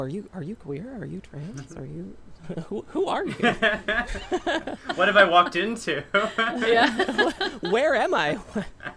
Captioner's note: laughter